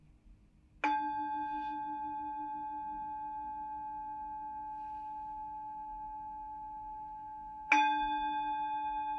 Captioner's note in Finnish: äänimaljan helähdyksiä